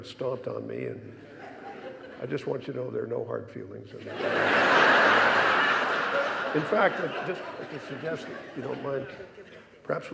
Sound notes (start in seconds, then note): 4.0 audience laughing